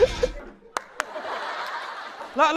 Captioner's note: applause for ourselves